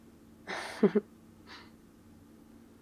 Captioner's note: laughs